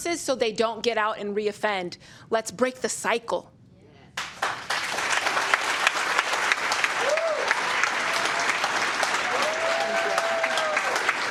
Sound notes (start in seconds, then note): 4.4 cheers and applause